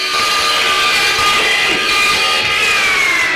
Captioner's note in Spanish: Sonido de zumbido de una sierra. Empieza la música